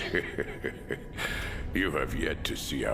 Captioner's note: Diederick laughing